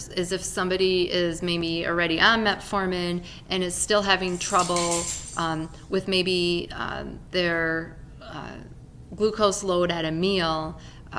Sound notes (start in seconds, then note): 4.1 keys falling